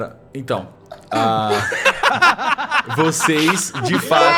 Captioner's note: laughter